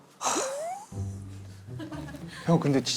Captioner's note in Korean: 한숨 푹